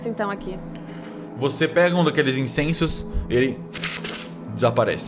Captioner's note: pfft